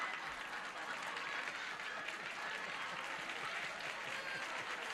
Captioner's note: laughter and applause